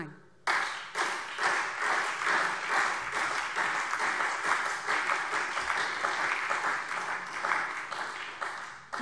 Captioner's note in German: Beifall SPD und Freie Demokraten